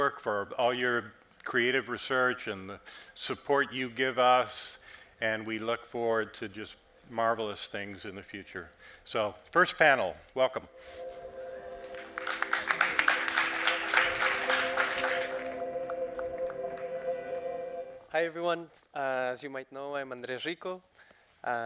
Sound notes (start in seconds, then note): 12.4 audience applauding; 14.2 suspenseful music